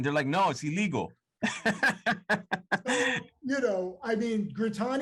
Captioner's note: laughing